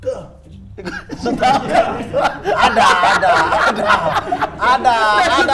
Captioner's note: laughing